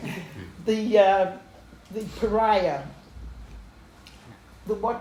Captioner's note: laughter